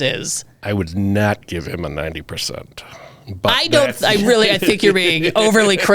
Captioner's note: laughs